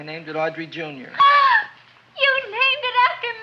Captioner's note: gasps